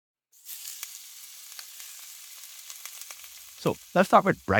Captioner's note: egg sizzling